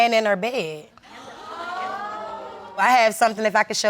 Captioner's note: audience murmuring